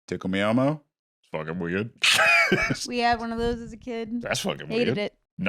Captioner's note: laughs